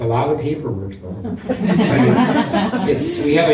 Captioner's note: laughter